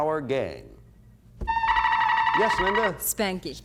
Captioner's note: buzzer sounds